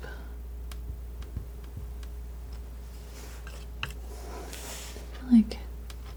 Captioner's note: tapping